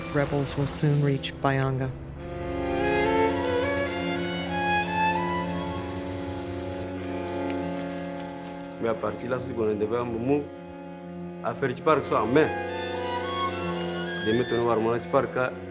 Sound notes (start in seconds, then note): 9.1 foreign language; 12.7 dramatic music